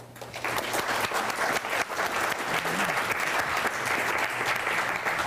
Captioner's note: applause